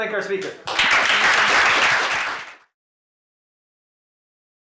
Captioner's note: applause